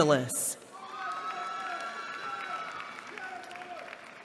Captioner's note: applause